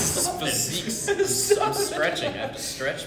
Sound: laughing

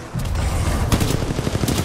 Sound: radio

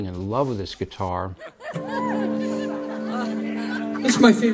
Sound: laughter

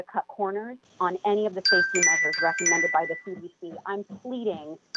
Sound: chime

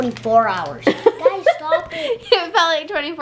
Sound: laughing

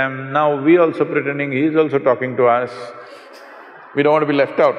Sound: laughter

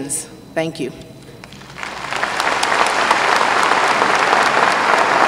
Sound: applause

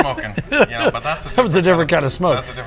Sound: laughs

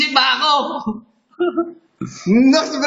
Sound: giggle

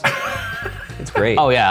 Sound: laughter

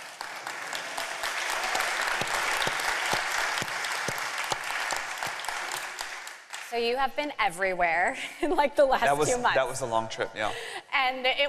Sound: applause

